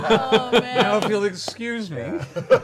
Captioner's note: laughter